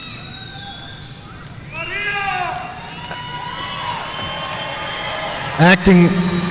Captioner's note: speaking faintly off mic